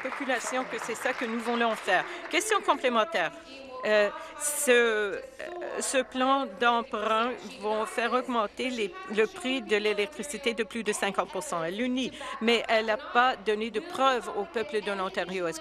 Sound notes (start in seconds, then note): 3.7 applause